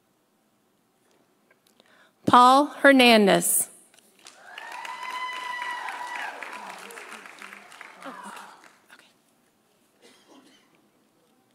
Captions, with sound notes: Paul Hernandez. (audience cheering) (audience applauding)